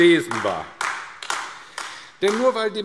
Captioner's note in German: Beifall AfD